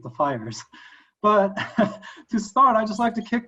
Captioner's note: laughing